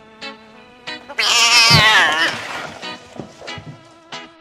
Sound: yowling

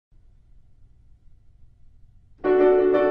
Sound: the sound of ye olde silence

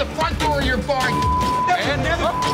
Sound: beep

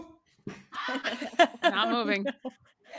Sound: people laughing

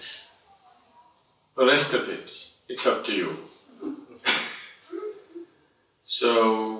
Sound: laughs

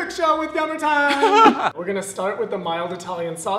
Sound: chuckling

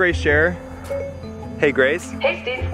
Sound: phone beeps

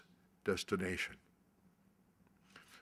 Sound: none

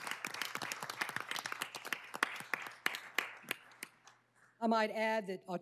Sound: applause

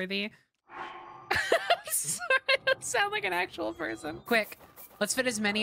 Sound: laughter

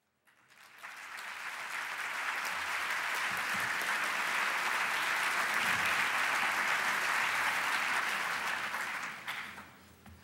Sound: applause

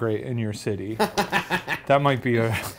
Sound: Ryan laughs

